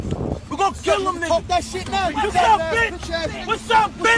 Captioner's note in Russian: Звуки агрессии